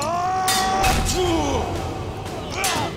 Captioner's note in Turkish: Dövüşme sesleri